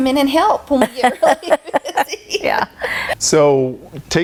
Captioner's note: chuckling